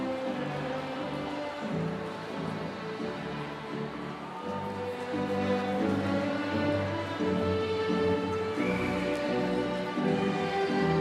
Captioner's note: applause